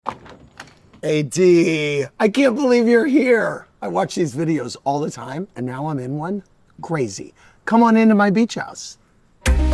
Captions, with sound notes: [door clacking] - "AD," I can't believe you're here. I watch these videos all the time and now I'm in one, crazy. Come on into my beach house.